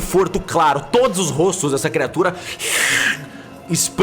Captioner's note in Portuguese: shiih